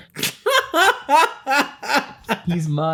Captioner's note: laughs